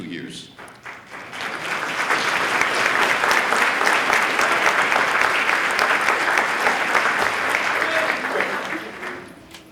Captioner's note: applause